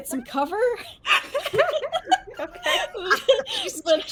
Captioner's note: everyone laughs